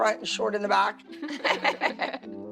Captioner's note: laughing